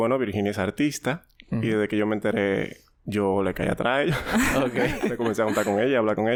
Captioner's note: laughs